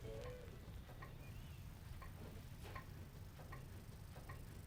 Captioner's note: clock ticking